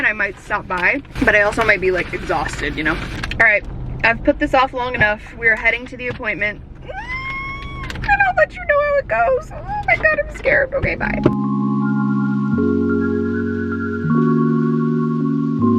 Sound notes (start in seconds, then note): 6.8 squeals; 11.2 ethereal music continues